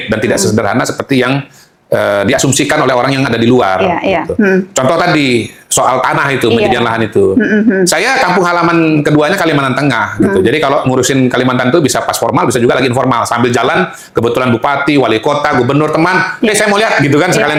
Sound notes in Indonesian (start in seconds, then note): 7.2 tertawa